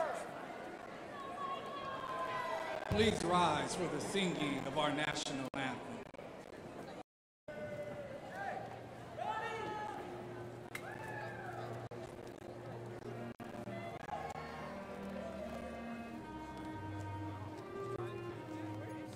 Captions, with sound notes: Please rise for the singing of our national anthem. (indistinct chatters) (gentle music)